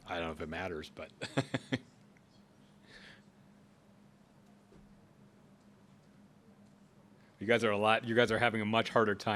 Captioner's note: laughs